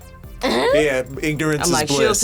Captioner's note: laughs